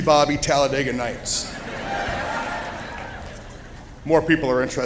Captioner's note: cheering